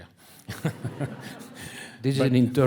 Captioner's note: audience laughing